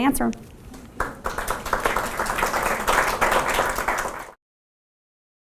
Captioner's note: audience applauding